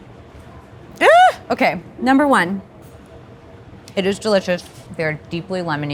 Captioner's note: exclaims